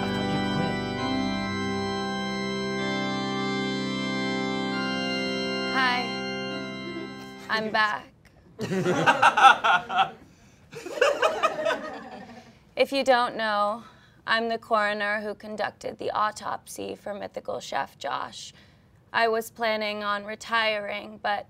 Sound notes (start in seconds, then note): 0.0 sad organ music; 8.6 all laughing